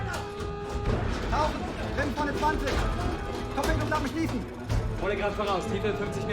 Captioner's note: speaking in foreign language